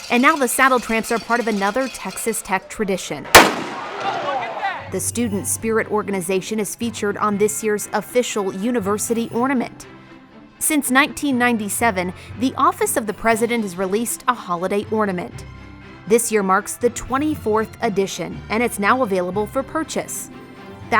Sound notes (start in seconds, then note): 3.3 gunshot bangs